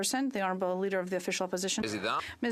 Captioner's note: speaking French